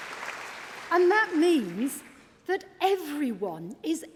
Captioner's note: applause